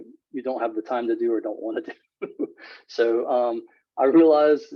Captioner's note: laughs